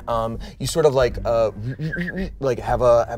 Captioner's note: imitates machine whir